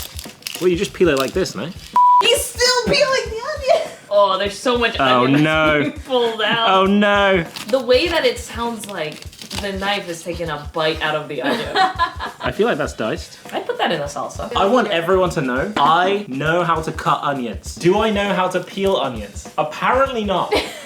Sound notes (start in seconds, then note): 11.4 laughing